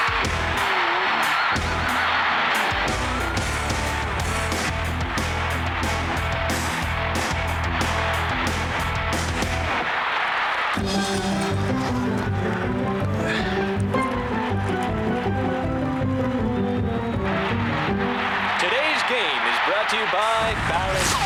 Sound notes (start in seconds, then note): 17.3 fans roaring